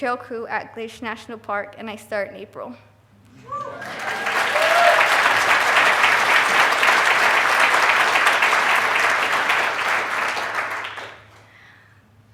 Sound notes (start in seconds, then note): 3.3 clapping